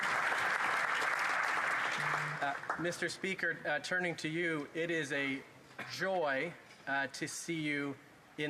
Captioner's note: applause